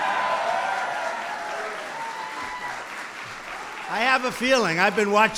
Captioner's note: applause